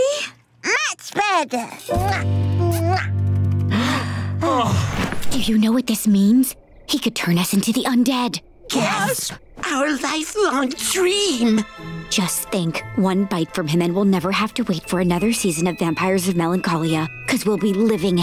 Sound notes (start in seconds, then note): 1.6 kissing; 3.6 sighing